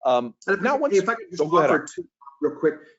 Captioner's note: audio warps